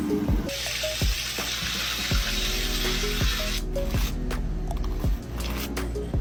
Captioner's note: upbeat music; sizzling sound